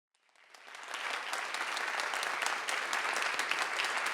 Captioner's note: audience applauds